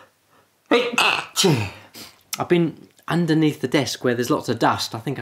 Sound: sneezes

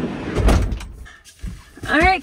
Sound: door slams

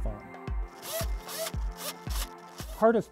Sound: servos moving

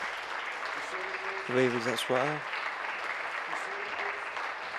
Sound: applause

